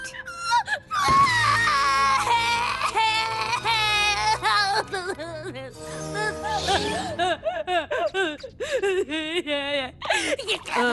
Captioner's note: bawling